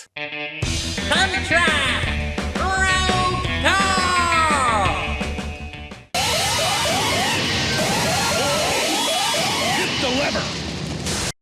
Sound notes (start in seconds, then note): 1.1 as Skeletor; 6.1 Konami alarm sounds